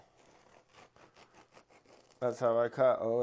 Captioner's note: slicing sound